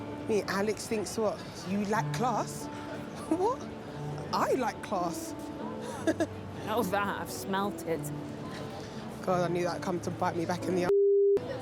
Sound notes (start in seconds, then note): 5.8 laughs